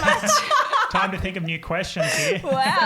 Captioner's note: all laughing